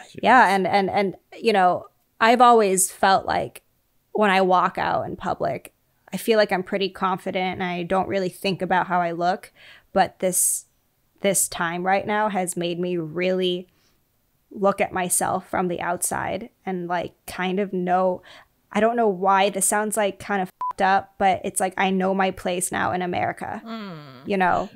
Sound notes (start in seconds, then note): 20.6 beep